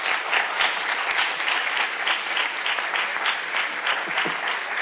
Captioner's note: audience clapping